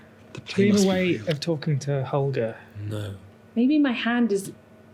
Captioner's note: mutters